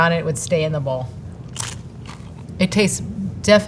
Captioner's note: mouth crunching